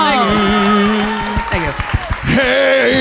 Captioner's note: audience applause